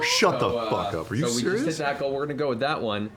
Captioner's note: gasps